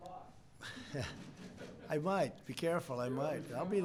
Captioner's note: laughter